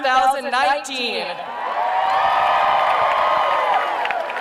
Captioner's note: cheering